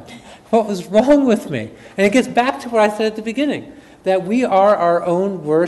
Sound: none

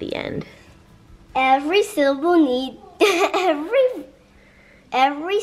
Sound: laughs

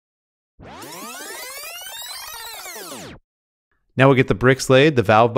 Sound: video whirring

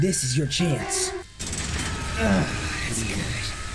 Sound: grunting

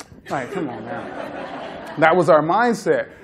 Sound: laughter

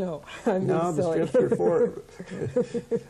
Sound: laughing

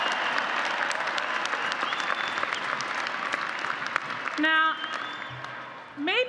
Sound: applause

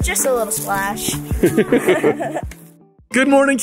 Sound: laugh

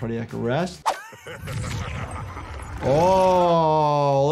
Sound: fighter laughs

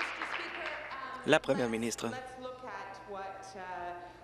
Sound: applause

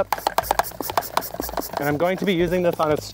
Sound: device pumping

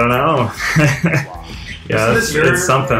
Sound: chuckles

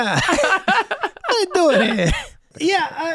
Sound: Megan laughing

